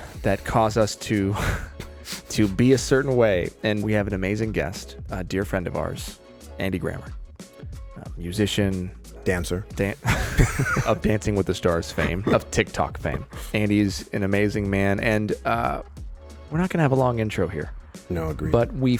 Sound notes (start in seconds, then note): 10.0 laughing